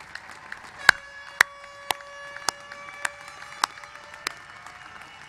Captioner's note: applause